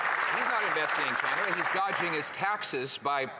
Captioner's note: some Applause